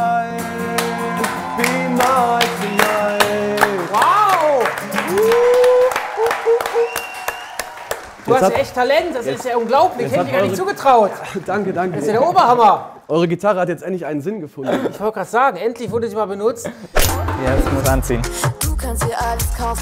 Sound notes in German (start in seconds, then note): 0.8 Jubel, Applaus; 4.5 Jubel; 7.2 Jubel, Applaus